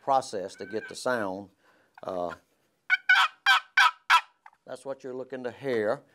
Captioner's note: box call noise